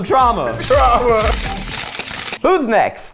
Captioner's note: camera flashes clicking